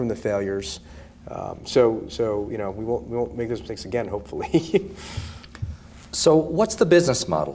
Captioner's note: laughs